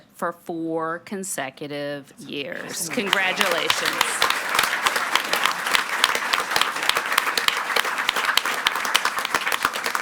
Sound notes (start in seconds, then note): 4.1 audience clapping